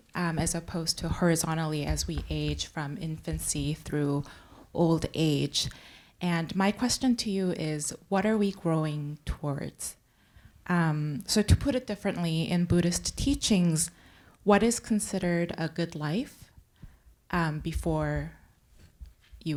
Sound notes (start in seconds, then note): none